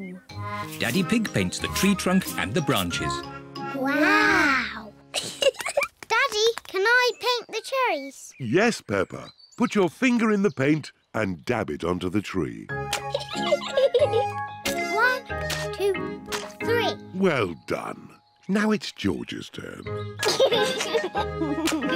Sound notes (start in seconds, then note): 5.1 both giggle; 13.0 giggles; 20.2 chuckles